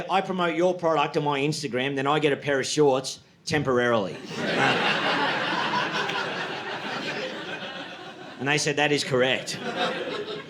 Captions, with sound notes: "I promote your product on my Instagram, "then I get a pair of shorts temporarily." (audience laughing) And they said, "That is correct."